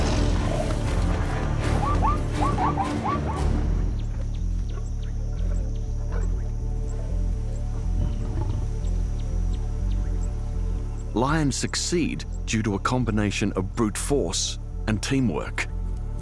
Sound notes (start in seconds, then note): 0.1 lion roars; 7.7 growls softly